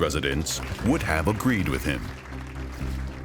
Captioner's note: group applauding